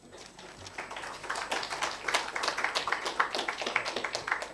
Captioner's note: attendees applauding